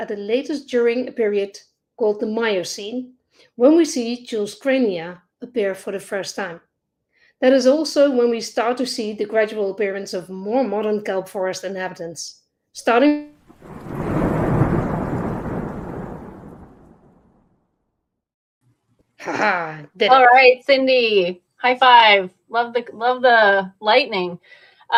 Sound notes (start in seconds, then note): 13.3 thunder rumbling